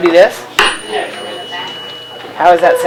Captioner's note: tuning fork rings